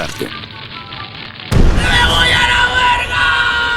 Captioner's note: funny scream